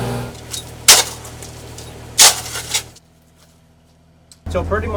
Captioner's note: shovel pounding